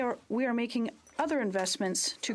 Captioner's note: speaking French